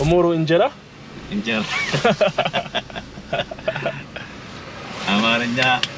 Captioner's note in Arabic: ضحك